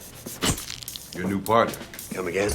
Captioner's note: flashbulb pops